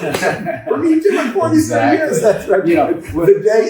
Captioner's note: chuckles